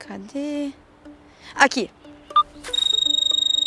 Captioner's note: mobile phone ringing